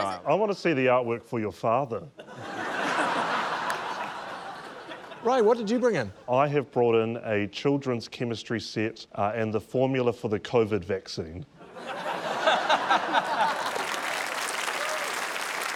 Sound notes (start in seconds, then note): 2.1 laughter; 11.8 laughter, applause, cheering